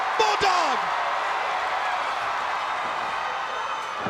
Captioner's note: crowd roaring